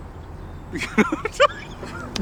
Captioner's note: laughs